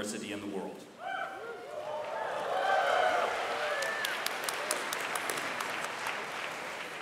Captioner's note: whooping, cheering and clapping from audience